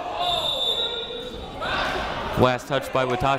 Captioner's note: whistle